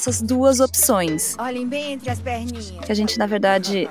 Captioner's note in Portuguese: voz feminina verbaliza ao fundo: olhem bem entre as perninhas